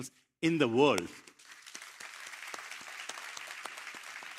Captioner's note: applause